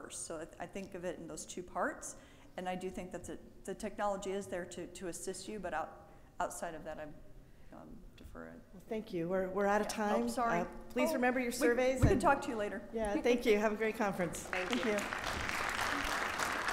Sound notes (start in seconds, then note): 14.4 audience applaud